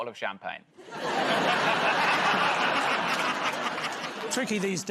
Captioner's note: laughter